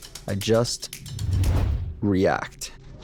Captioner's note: loud whooshing